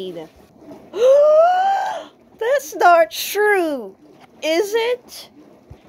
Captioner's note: gasps